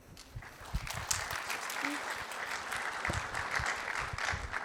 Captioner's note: applause